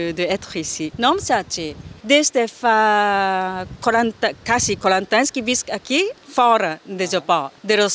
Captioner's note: in Catalan